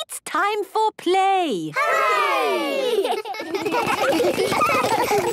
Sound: laughter

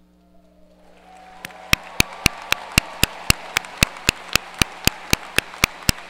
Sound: audience cheers and applause

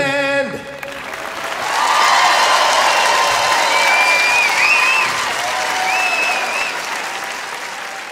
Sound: audience applauds

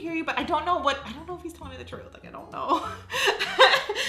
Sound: laughs

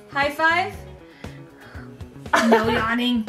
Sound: yawning; laughter

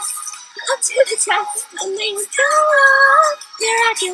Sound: laughs while singing

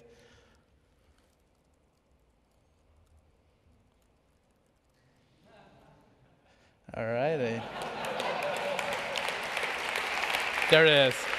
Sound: applause; laughing

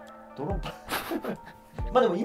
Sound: laughing

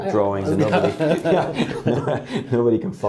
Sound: both laughing

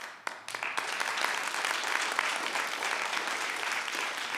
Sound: audience applauds

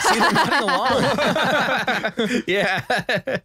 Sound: laughs

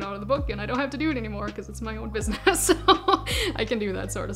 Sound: laughing

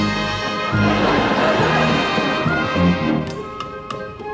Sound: audience laughing

